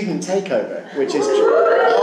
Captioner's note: wooing